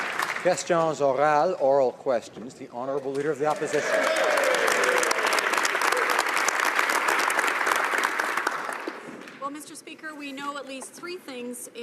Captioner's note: applause